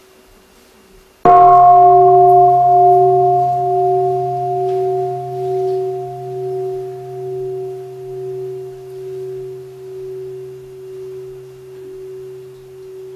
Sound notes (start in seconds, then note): 1.2 gong